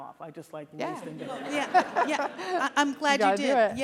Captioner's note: audience laughs